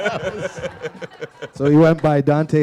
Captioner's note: laughter